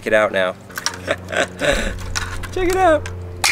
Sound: laughter

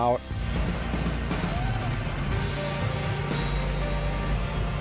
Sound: trencher revving

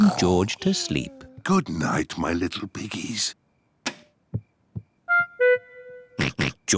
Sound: light switch clicks; oinks

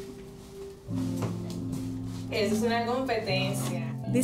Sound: speaking spanish

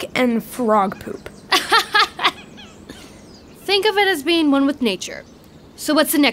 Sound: laughs

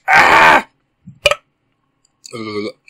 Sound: burp

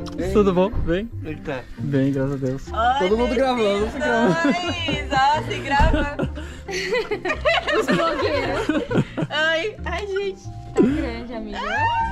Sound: laughs

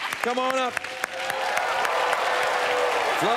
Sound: cheers and applause

